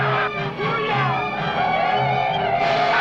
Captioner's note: warrior shouts; Yaqui shouting; gunshots blasting